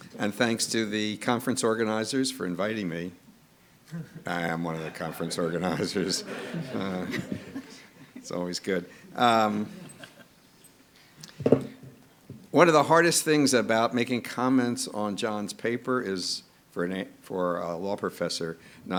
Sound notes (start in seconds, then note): 6.4 audience laughing